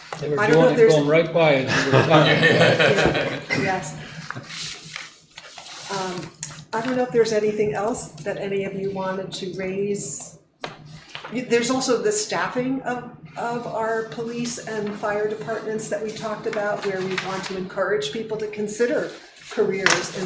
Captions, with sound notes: I don't know if there's-- You want to call them right by and they'll be fine. (all laughing) Yes. I don't know if there's anything else that any of you wanted to raise. There's also the staffing of our police and fire departments that we talked about where we want to encourage people to consider careers